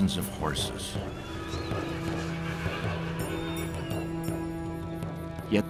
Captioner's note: horses neighing